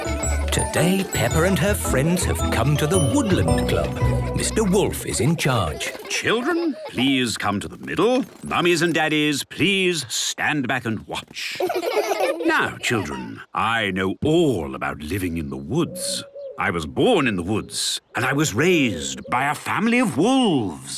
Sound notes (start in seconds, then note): 11.4 laughter